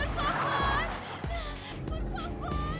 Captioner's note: car revving